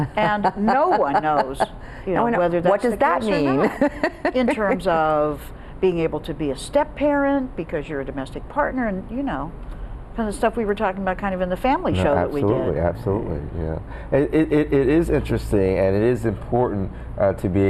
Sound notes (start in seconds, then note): 2.9 laughs